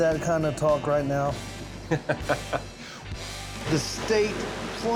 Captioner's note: laughs